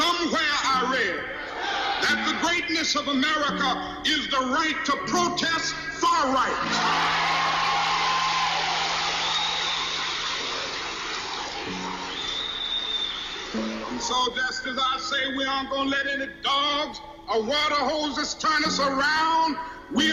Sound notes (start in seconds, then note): 7.4 crowd cheers